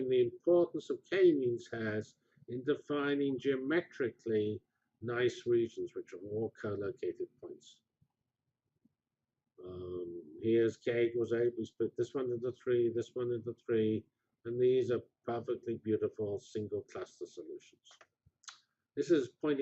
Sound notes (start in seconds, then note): 7.9 pause